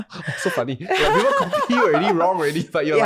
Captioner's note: laughing